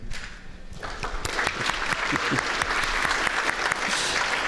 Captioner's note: applause